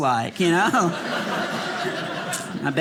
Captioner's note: audience laughing